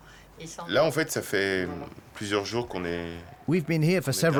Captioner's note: speaking French